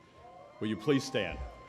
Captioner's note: cheering